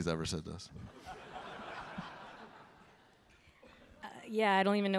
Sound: audience laughing

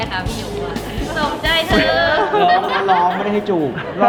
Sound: laughs

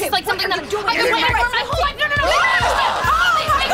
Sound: arguing

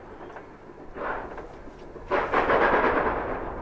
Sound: one of the steam locomotives slipping

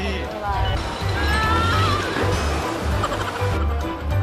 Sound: argh!

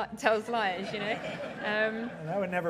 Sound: laughing

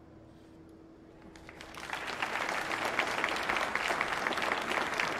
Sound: audience applauding

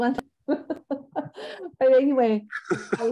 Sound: laughs

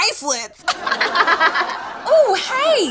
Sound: audience laughs

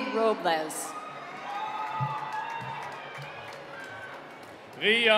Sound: cheering

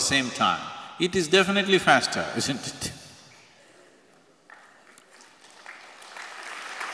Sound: applause

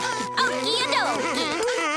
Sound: panting

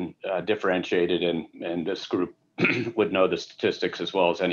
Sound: clears throat

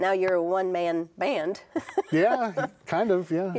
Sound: chuckling

